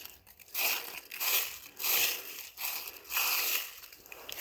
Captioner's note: leaves crunching